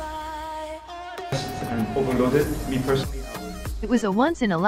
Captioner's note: speaking in Arabic